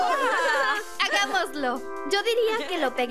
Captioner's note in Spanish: gritos y risas